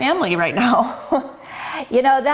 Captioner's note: laughing